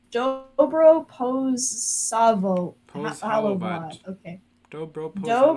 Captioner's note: thick American accent